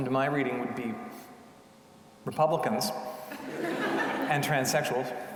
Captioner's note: audience laughing